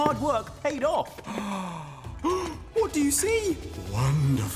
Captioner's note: gasping